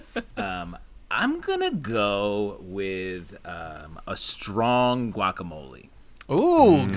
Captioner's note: murmured approval